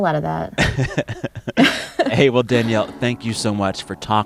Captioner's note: laughter